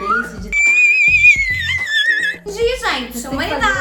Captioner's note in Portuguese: Grito agudo